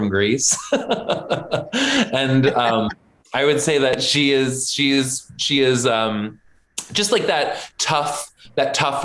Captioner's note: laughs